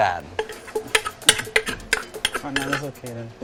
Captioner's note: sound of the mortar and pestle